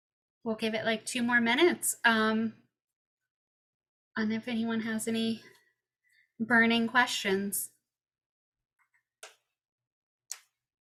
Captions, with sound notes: We'll give it like two more minutes. If anyone has any burning questions? [silence]